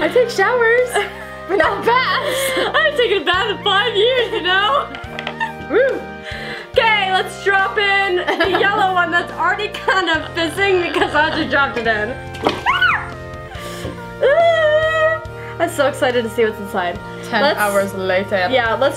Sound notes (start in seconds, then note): 12.6 screams